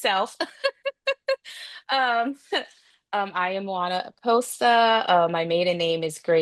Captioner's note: laughs